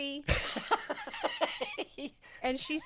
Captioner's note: laughs